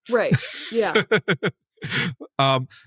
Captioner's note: laugh